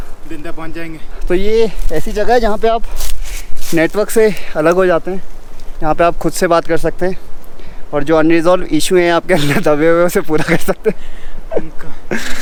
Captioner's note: laughs